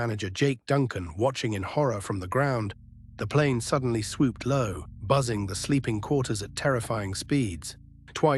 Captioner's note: SFX: heartbeat thumping